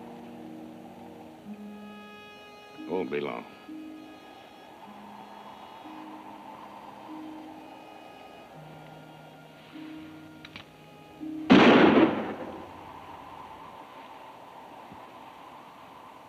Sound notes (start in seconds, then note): 4.5 gentle music; 11.5 gun bangs; 13.2 wind howls